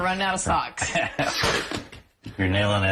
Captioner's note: laughs